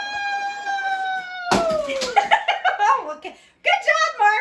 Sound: laughter

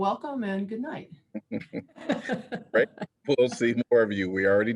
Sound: laughter

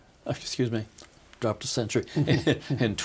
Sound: laughing

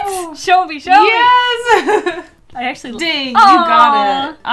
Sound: laughs

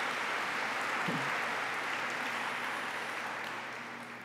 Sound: applause

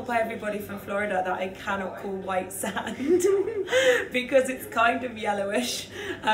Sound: laughs

